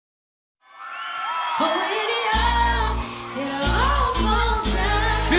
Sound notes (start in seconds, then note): 0.6 crowd cheers